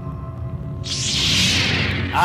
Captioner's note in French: bruit de saber-laser déployé